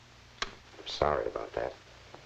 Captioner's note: intercom clicks